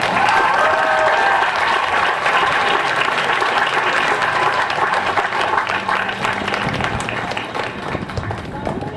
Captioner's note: cheering and applause